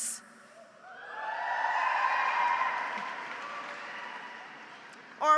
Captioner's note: audience cheers